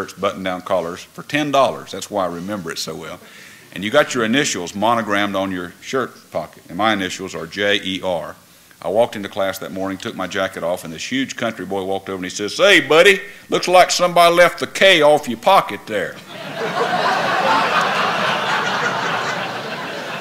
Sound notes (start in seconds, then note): 16.2 laughter